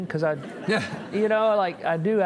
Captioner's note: audience chuckling